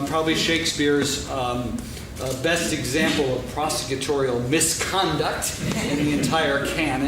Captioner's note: laughing